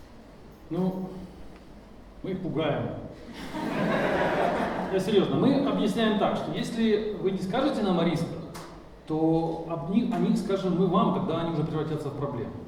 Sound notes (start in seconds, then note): 2.3 speaking in foreign language; 3.3 audience laughing; 5.1 speaking in foreign language